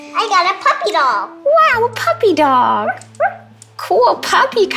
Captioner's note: Cairo barks